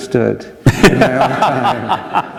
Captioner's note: laughter